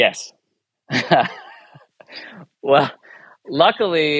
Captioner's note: laughs